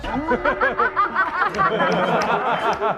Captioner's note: hahaha